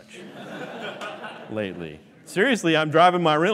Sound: laughing

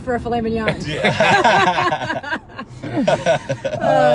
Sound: laughing

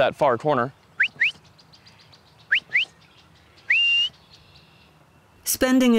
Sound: whistles

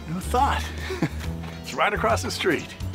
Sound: laughs

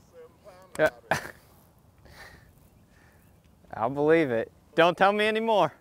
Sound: laughs

